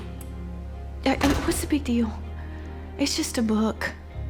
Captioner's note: door shuts